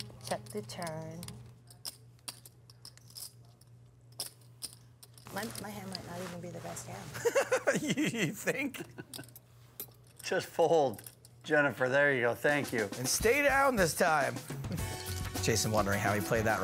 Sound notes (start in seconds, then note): 7.2 laughing